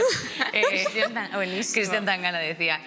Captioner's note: laughter